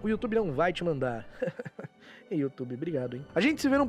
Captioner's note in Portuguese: risos